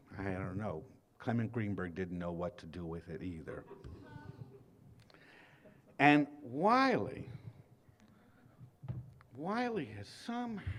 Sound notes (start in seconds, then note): 3.7 laughter